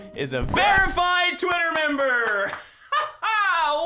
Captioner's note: claps; laughs